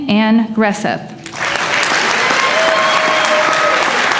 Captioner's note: applause